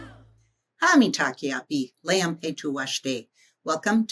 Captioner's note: speaking in Native language